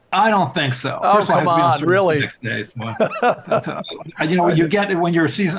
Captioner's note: chuckles